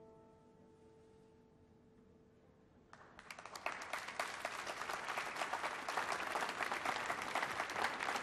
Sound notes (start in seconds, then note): 2.9 applause